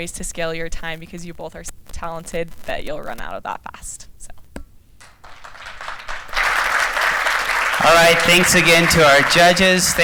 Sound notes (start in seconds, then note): 5.0 applause